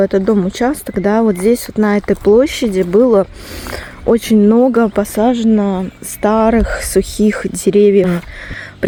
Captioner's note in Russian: фыркает